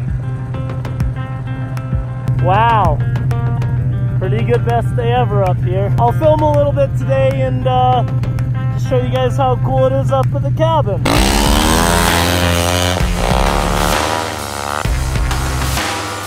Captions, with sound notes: (upbeat music) Wow, pretty good best day ever up here. I'll film a little bit today and show you guys how cool it is up at the cabin. (motor revving)